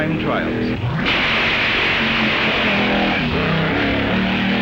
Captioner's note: hot rods revving